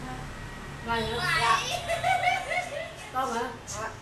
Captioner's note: laugh